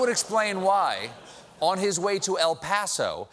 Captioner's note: laughter; audience reacts